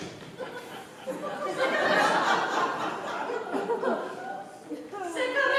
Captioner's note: laughter